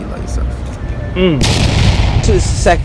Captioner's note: explosion sound